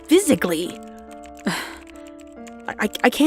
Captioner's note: sigh